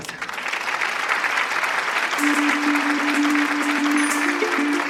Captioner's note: applause